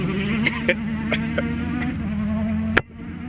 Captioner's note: coughing